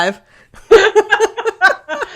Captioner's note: laughing